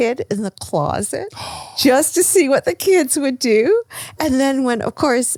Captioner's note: gasps